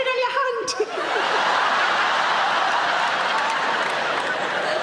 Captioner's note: audience laughing